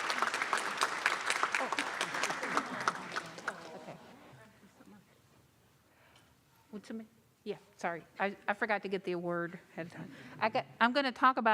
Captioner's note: applause